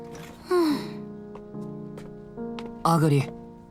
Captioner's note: sigh